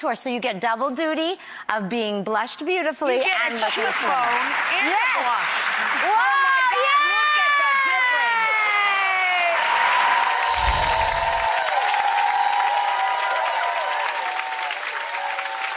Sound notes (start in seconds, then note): 8.4 cheering